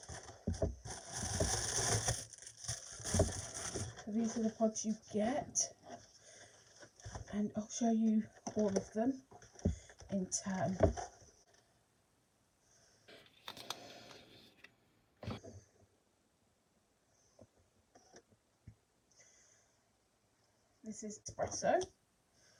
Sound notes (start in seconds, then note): 0.2 rustling; 6.2 rustling; 12.6 breathing